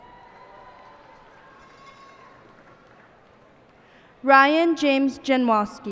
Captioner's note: cheers and applause